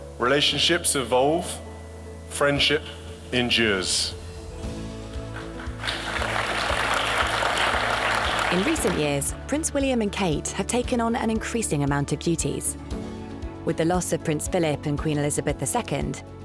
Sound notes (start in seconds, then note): 5.2 audience applauding